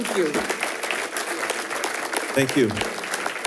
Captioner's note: attendees applauding